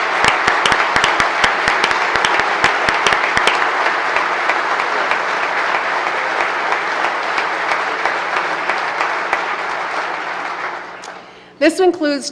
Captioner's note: applause